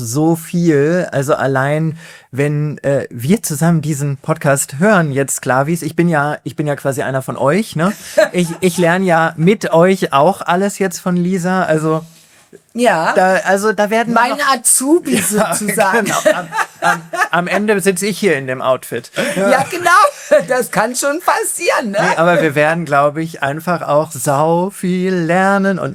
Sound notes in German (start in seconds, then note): 15.1 gelächter